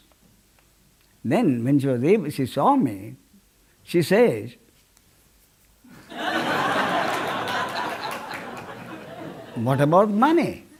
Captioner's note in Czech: smích